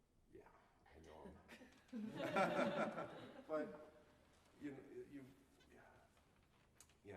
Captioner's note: laughter